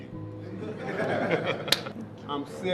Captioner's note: all laughing